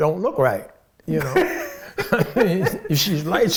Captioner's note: laughing